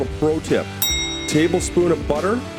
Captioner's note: chimes